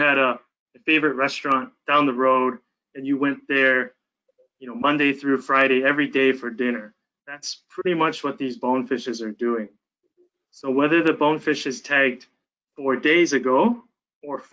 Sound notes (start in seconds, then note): none